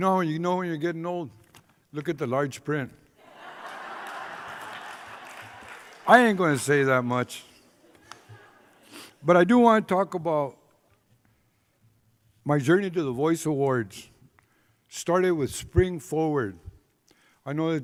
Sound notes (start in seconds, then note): 3.2 laughter